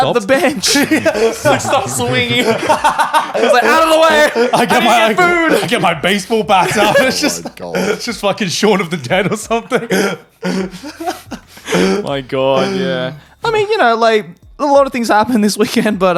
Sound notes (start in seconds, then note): 2.4 laughing; 7.0 laughing